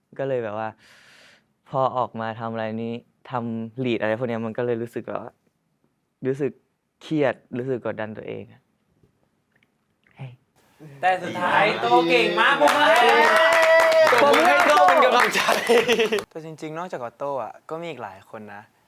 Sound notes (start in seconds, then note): 13.7 friends shout out